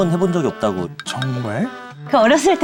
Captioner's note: hesitates